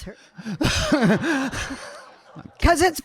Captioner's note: audience laughing